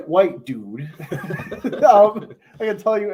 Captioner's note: laughter